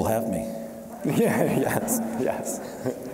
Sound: audience laughing; laughing

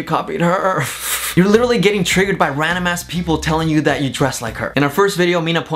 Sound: laughs

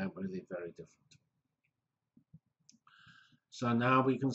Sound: pause

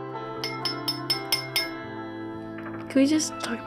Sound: clinking

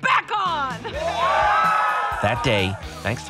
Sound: cheers and applause

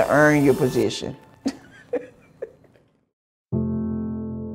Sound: laughing

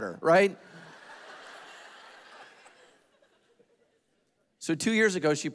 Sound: congregation laughing

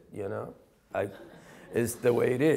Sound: laughing

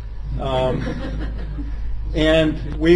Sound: laughter

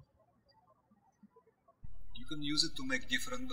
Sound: birds chirping

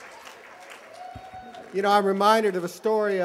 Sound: applause

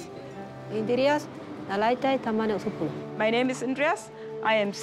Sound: speaking foreign language

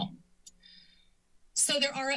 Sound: inhales

